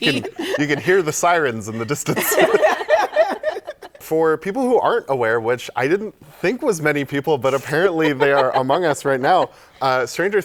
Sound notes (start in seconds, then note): 2.4 laughter